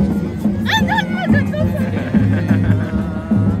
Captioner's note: laugh